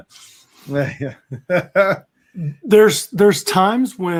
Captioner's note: laughing